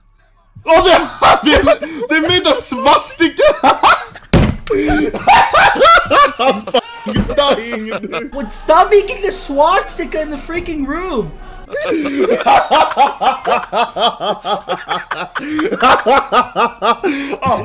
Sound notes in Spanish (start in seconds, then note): 4.3 Sonido de Mesa siendo golpeada; 4.6 Risas muy fuertes; 11.6 Mas risas fuertes :''